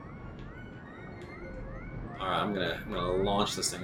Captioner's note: game sounds